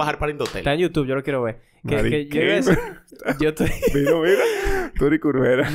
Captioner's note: laughs; laughter, babble